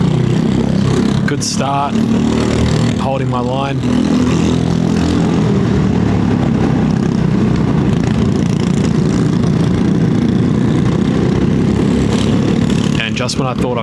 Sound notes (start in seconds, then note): 5.7 engine noise